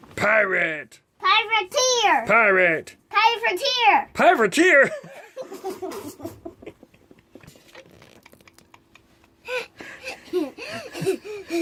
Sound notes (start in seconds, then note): 4.9 laughter